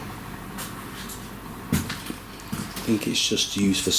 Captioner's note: none